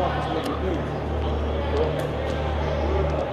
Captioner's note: overlapping chatter